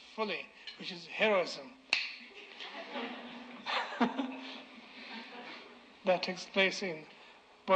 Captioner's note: snap